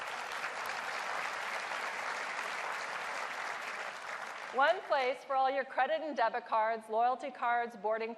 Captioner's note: applause